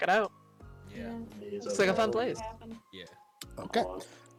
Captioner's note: murmurs in agreement